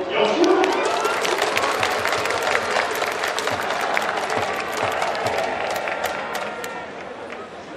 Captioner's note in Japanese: 拍手･応援